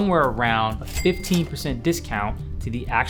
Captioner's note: cha-ching sound effect